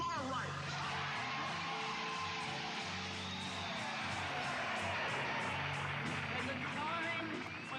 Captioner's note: cheering